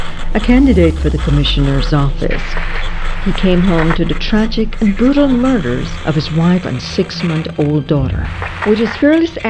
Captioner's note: static